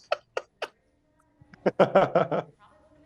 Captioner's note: indistinct chatter